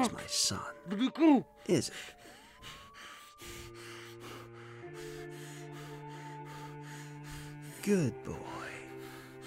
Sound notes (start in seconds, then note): 3.4 Ezra breathing heavily